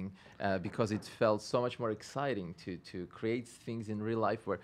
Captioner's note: stutters